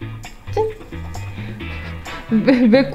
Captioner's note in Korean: 웃음